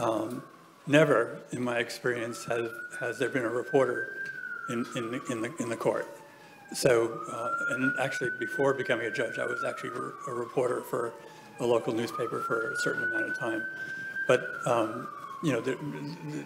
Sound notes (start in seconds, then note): 3.7 sirens blaring